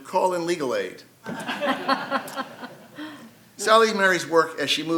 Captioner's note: audience and panelists laugh